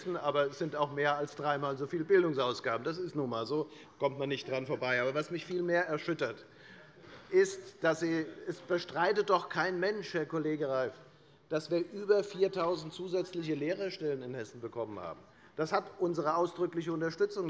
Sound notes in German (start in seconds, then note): none